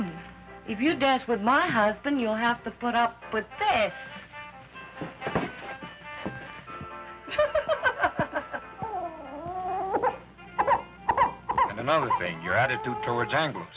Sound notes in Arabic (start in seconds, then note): 4.6 موسيقى مبهجة; 7.2 نساء يضحكن; 8.8 ضجة الطفل